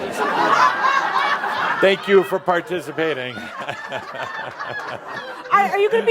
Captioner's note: laughter; Adamus is chuckling